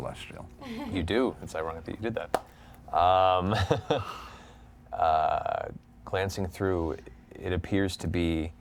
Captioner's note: chuckles